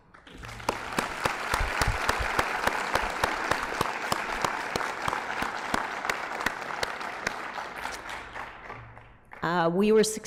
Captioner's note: applause